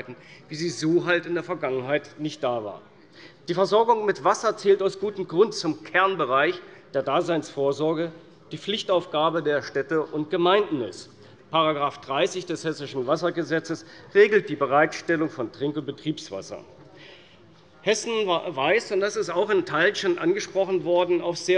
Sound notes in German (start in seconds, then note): none